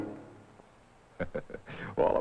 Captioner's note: chuckles